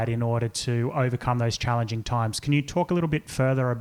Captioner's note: none